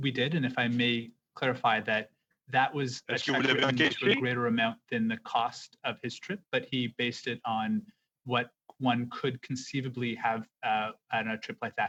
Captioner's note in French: voix de l'interprète